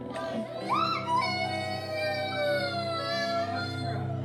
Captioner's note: children cry